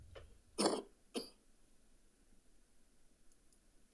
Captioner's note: coughs